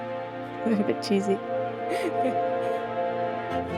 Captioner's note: laughs